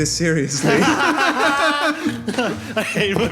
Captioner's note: Marauders laugh again